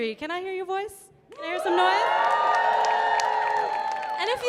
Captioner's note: audience cheering